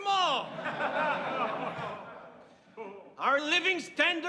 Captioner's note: people laughing